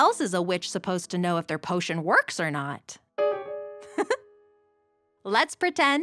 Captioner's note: laughs